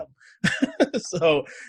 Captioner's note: laughs